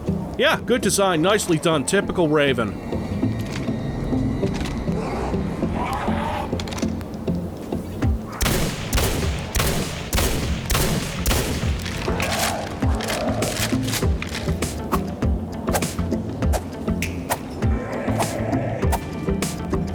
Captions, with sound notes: Yeah! Good design, nicely done! Typical Raven! [gunshots] [reloading] [light swooshing sounds]